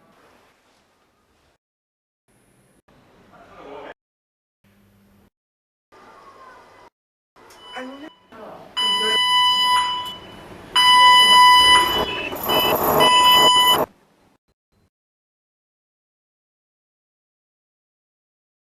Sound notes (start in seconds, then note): 3.3 hospital noises cut in and out; 8.7 beeping, increasing in intensity